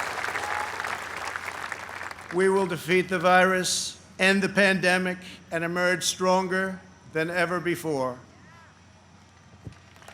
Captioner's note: applause